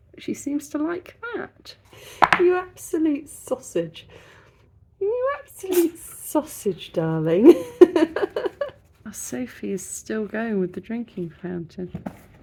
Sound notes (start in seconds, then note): 5.6 cat sneezes; 7.4 laughing